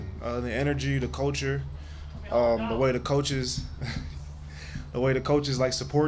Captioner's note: laughs